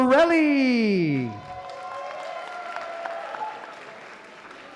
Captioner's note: applause